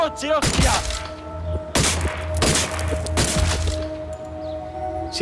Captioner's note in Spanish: Disparos